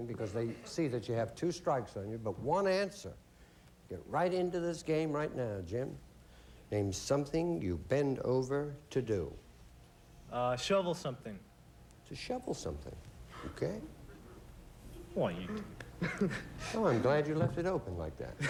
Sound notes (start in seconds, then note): 15.2 laughs